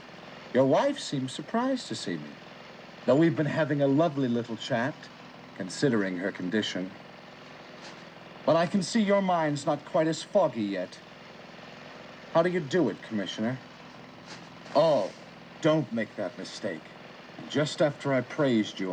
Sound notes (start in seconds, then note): none